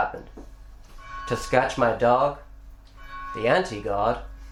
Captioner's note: church bell